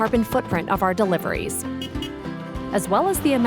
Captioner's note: horn honking